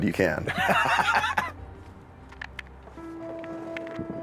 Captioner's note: laughs